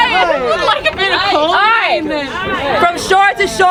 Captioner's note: people chattering